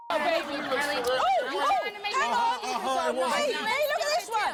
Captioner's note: all guests yelling